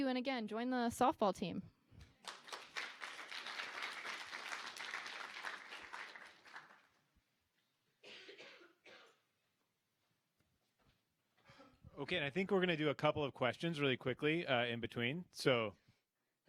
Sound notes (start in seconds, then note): 2.0 applause